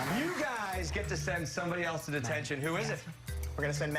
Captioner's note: cheers and applause